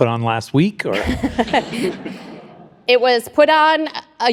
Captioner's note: laughs; audience laughs